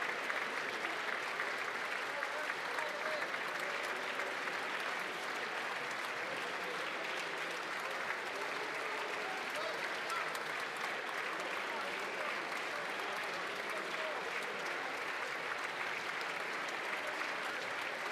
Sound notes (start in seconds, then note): 1.8 applause